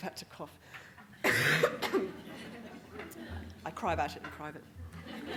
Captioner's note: audience Laughing